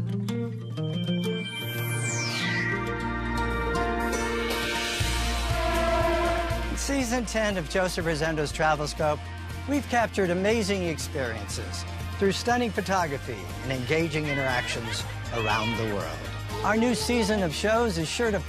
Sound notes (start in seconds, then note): 0.1 bright music; 4.4 horns blowing